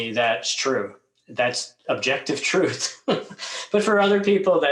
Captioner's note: chuckles